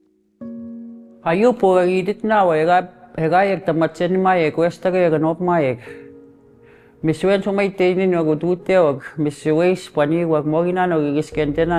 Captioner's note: speaking Cree